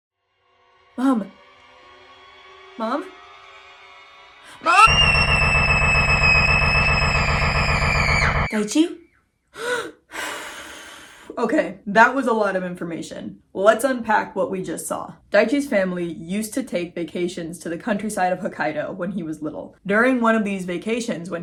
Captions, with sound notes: "Mom... Mom?" "MOM-" (voice cut off by a long scream) "Daichi?" (gasp) (deep breath) Okay that was a lot of information. Let's unpack what we just saw. Daichi's family used to take vacations to the countryside of Hokkaido when he was little. During one of these vacations